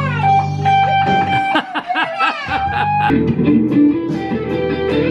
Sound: laughing; guitar music

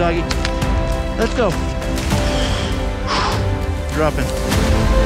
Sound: exhales

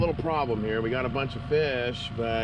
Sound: boat engine idling

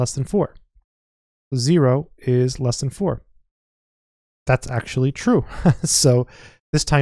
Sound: chuckles

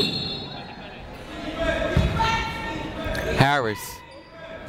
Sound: people shouting in the crowd

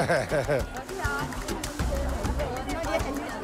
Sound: father laughs

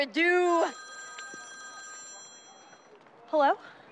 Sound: phone ringing

